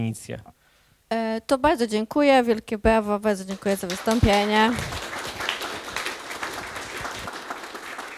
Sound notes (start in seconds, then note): 5.0 applause